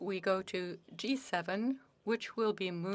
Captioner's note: speaking French